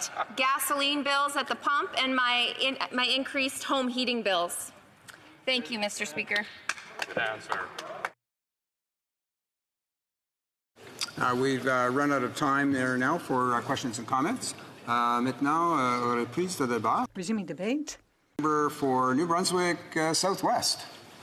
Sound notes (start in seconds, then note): 18.7 speaking French